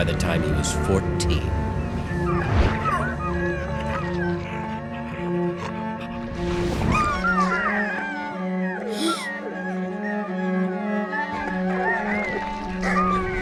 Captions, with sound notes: by the time he was 14. [whimpering] [whimpering] [gasping] [whimpering]